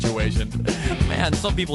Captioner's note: breath